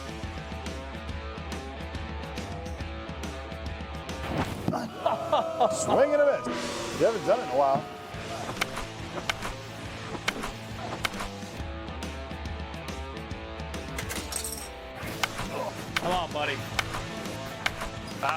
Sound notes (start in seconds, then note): 0.1 upbeat music; 4.7 laughter; 9.2 bat cracking; 11.3 upbeat music; 13.9 token clanking; 17.5 bat cracking